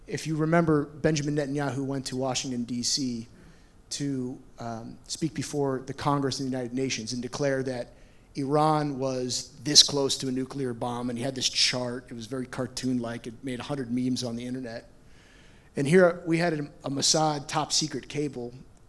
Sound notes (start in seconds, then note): none